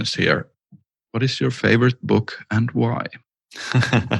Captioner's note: laughs